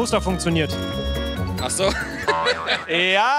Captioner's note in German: Gelächter